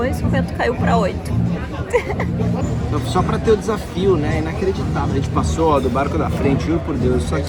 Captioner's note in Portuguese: risadas